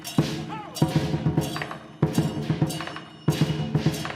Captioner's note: man exclaiming